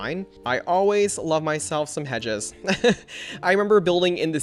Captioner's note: laughs